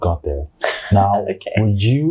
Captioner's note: chuckles